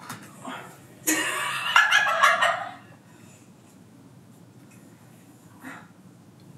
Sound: laughs

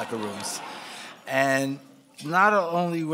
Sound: laughing

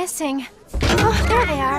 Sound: door cracking

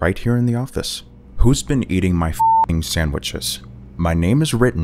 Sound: beep

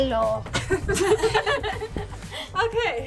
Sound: all laugh

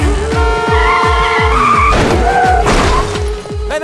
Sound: horn blares; brakes squeak

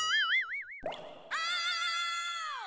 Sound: water drips

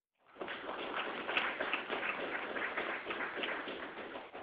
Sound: audience applauding

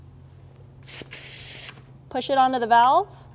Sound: air hissing

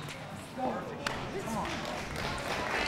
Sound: chattering; audience applauding

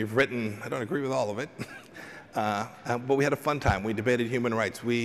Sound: laughter

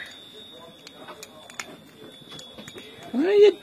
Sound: chimes near the door in the background

